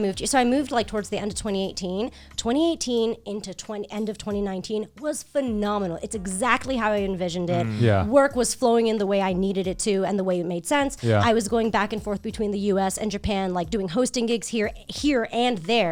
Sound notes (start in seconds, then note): 7.5 guys humming in agreement